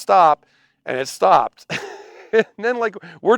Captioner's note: chuckles